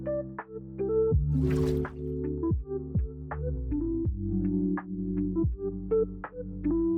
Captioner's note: gentle music; water splashing